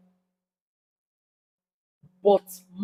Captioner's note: paause